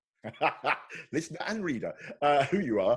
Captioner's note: laughing